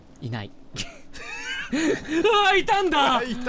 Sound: laughs; Namikawa wheeze

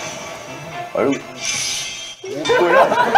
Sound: excited

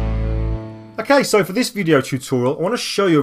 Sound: voiceover

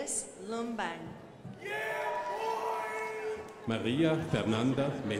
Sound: crowd applauding

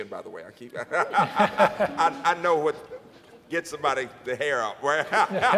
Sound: laughs; laughs

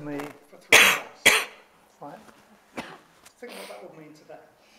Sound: coughs

